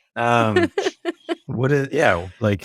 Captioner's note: laughs